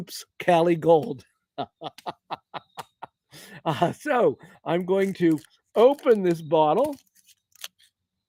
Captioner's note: laughter